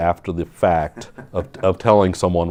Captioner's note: laughs